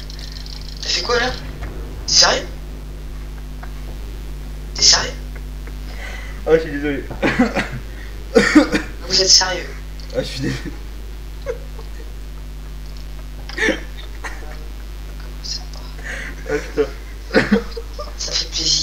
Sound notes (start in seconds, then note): 7.1 cough; 14.2 laugh